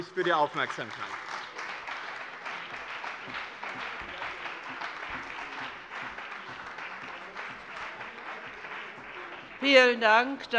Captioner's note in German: Beifall bei dem BÜNDNIS 90/DIE GRÜNEN und der CDU